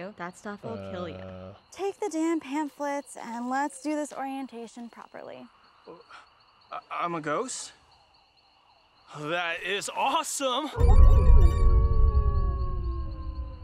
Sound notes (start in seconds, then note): 11.6 wolf howls